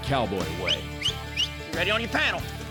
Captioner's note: whistling